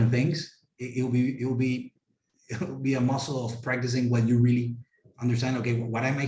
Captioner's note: laugh